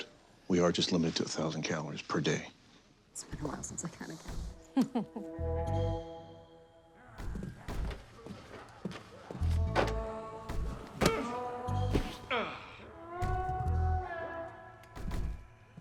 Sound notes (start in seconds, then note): 4.7 chuckles